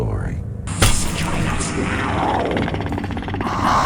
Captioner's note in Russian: животные звуки